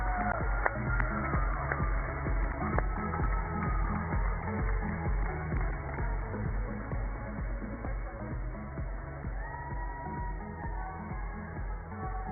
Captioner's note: cheers and applause